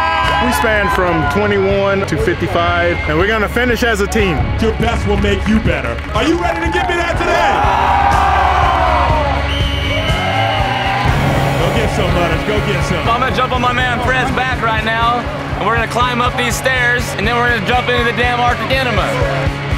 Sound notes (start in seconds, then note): 7.4 cheering; 9.3 whistle blows; 19.5 rock music